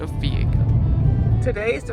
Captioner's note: car engine purring